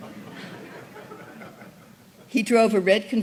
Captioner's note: laughter